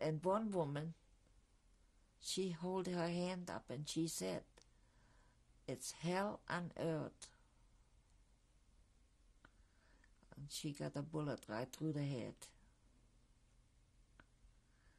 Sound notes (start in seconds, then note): 7.6 pauses for 3 seconds